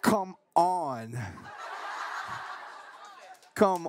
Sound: laughing

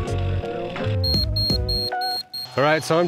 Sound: level pinging

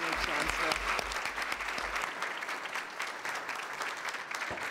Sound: applause

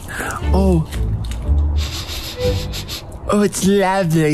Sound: sniffing

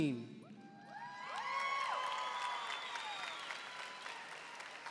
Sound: audience applauding

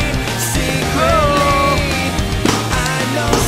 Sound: cheering

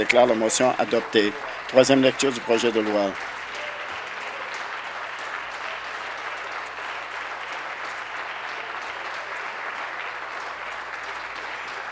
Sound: applause

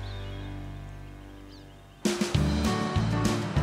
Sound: birds chirping

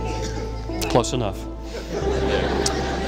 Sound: laughter

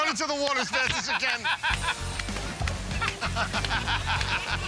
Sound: laughter

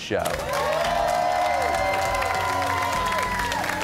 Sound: cheers and applause

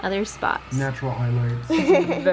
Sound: laughs

